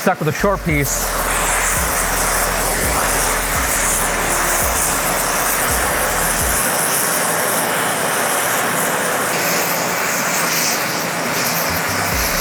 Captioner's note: buzzing